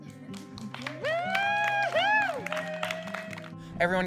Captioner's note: cheering